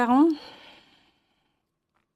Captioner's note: speaking French